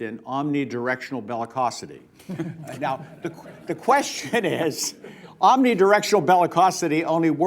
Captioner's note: laughter